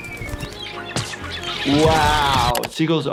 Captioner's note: seagull chirping